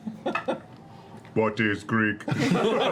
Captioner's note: robot voice; laughter